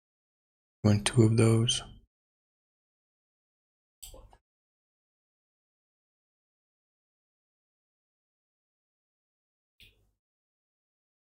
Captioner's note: blank Audio